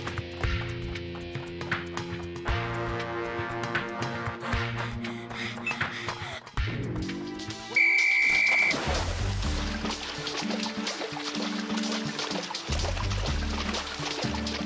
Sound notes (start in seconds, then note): 4.7 Ines breathes heavily; 7.0 water splashes; 7.7 whistle chirps